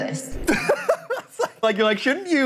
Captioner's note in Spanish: risas